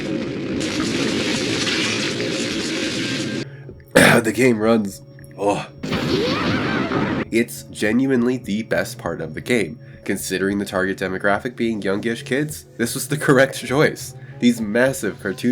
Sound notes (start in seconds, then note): 2.8 phlems; 5.8 explosions